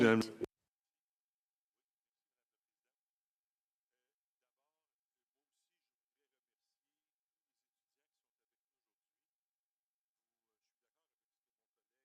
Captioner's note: speaking French